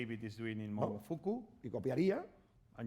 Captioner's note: speaking spanish